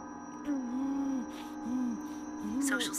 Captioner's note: Kenny pants and groans